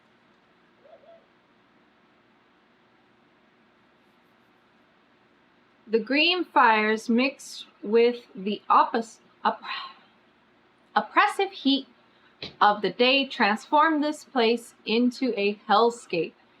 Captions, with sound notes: THE GREEN FIRES MIXED WITH THE OPPIS-- OPP-- [SIGHS] OPPRESSIVE HEAT OF THE DAY TRANSFORM THIS PLACE INTO A HELLSCAPE